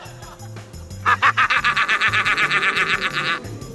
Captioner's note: laughs maniacally